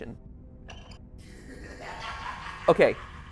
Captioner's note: Squeak, Molten Freddy laughs